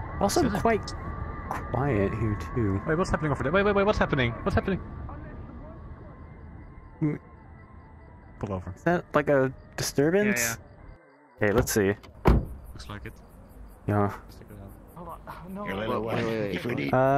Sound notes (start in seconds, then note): 5.1 distant yelling; 12.0 car door